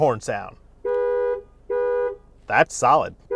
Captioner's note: car horn honking